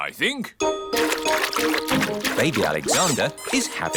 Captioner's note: splashing